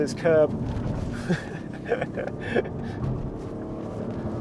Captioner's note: chuckling